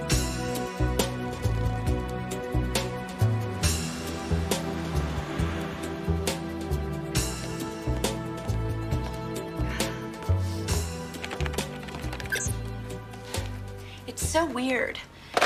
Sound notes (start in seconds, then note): 9.6 sighs